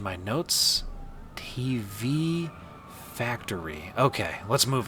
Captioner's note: slowly to himself